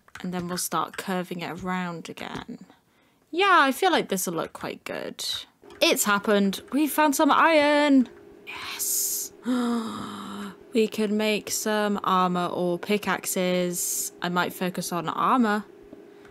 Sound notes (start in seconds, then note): 9.3 gasp